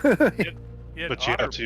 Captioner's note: laughs